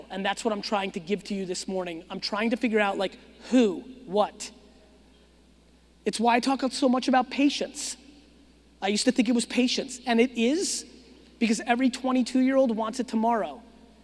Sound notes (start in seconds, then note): none